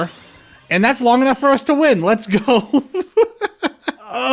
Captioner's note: laughter